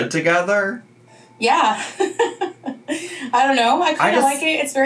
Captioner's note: laughs